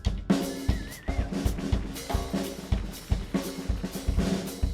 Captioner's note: audience applauding